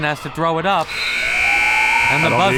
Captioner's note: buzzer